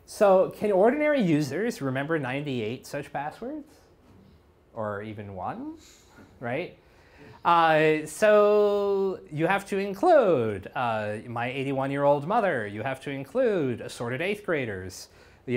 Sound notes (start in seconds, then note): none